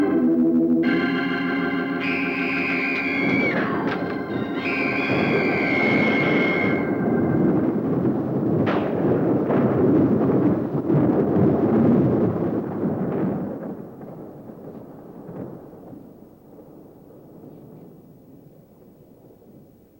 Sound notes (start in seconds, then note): 1.9 screaming; 8.9 thunder